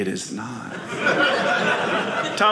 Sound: audience laughing

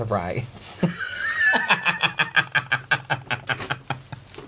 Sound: wheezing Laughter

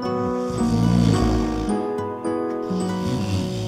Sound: gentle music; snoring

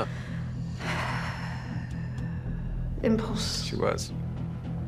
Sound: sighs heavily

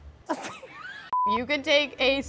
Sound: laughing

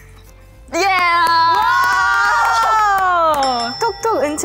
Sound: clapping to move on

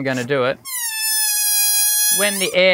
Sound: balloon wheezing

